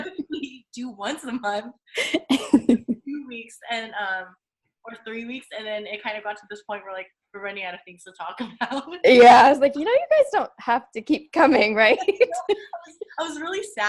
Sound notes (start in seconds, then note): 0.0 giggling; 11.9 giggling